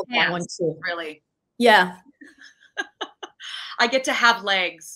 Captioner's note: laughing